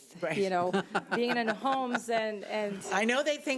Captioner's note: laughing